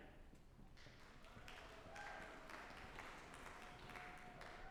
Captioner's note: audience applauding